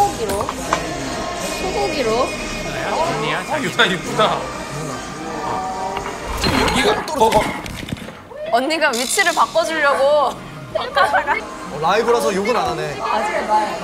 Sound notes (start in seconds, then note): 6.0 crash